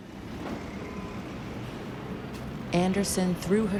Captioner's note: car engines rumbling